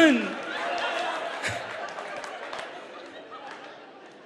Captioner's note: audience laughs